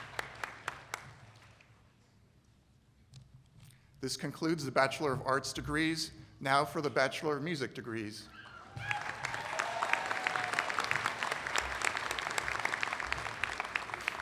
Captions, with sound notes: . THIS CONCLUDES THE BACHELOR OF ARTS DEGREES. NOW FOR THE BATCH MORE OF MUSIC DEGREES. [ APPLAUSE ]